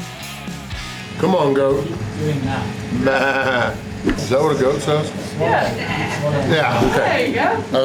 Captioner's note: goat noise